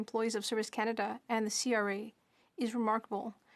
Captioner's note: speaking French